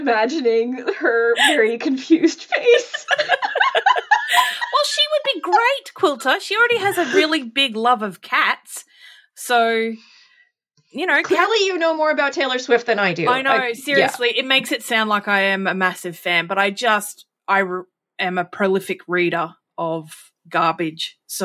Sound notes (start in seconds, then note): 2.5 laughing